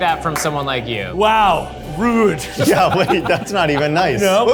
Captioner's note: all laughing